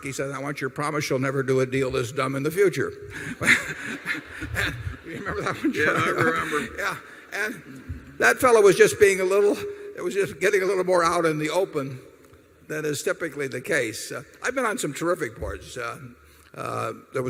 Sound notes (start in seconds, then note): 3.1 laughter